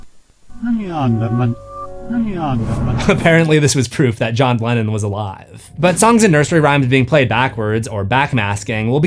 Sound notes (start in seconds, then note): 3.2 laughing